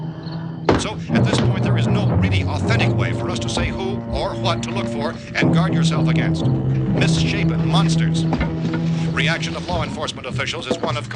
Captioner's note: radio news